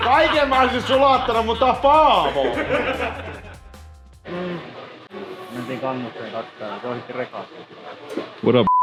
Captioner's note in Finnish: naurua